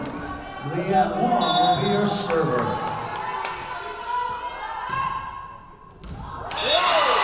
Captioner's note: whistle blowing